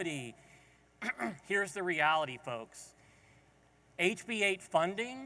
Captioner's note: clears throat